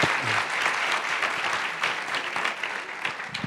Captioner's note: applause